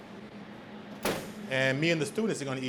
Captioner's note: oven door shuts